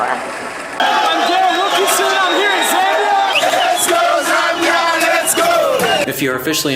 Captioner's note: cheering